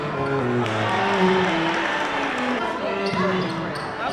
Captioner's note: applause